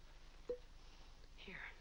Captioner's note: corks pops